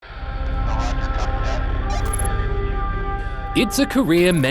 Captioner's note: space mission chatter